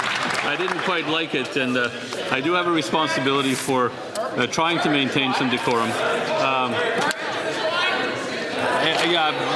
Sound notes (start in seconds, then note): 0.0 some Applause